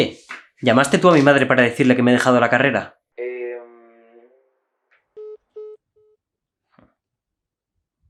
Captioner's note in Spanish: al teléfono